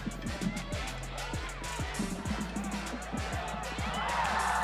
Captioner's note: nats of fans cheerin